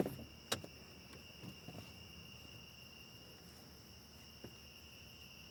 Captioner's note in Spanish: los insectos chirrían